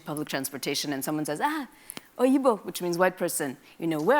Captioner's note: speaks in a foreign language